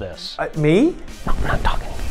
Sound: whispering

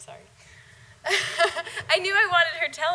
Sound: laughing

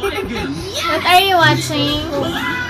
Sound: laughing

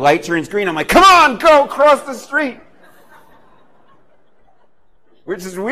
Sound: laughter

